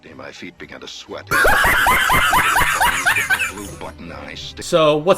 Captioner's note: laughing